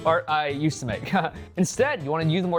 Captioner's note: laughs